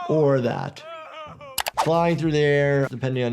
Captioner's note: Homer moaning